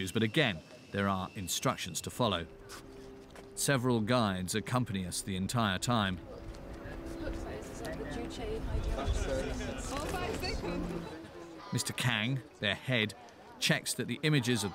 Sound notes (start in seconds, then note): 6.2 indistinct chatter and laughing